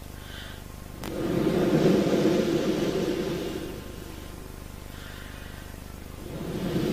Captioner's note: shri mataji blows into the microphone